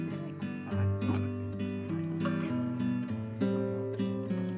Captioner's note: laughs